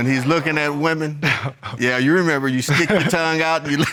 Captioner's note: chuckles